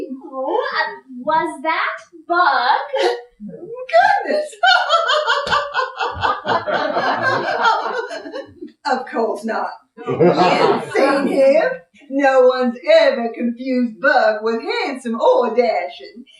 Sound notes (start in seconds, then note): 4.1 laughter